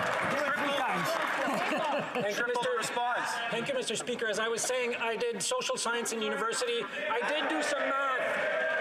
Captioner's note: yelling